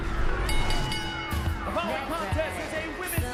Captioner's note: bell ringing